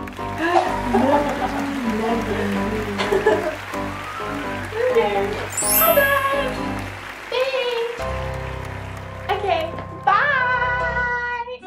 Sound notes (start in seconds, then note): 0.0 applause; 0.2 cackling; 5.5 bell chime